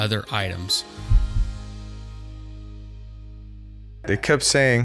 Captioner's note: heart beating